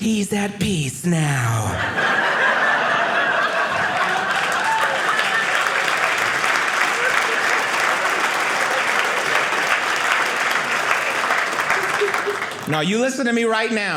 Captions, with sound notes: "he's at peace now." (audience laughing) (audience applauding) Now, you listen to me right now.